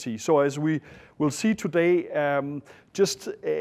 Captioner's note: none